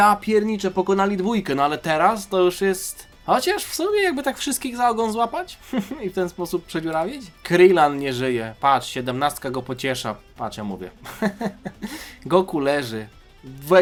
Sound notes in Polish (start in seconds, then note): 11.0 śmiech